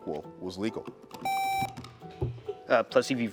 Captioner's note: buzzer beeps